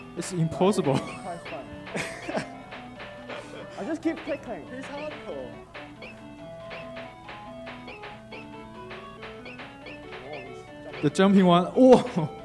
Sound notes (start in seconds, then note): 1.3 game beeping; 7.2 game beeping